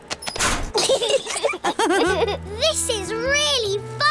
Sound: laughter

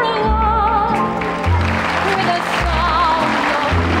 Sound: audience applauding

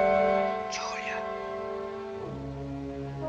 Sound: man whispers

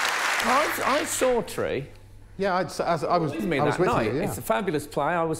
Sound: applause

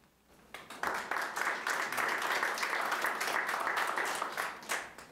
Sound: audience applauding

